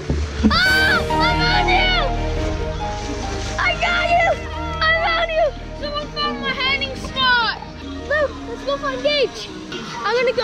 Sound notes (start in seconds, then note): 0.5 screaming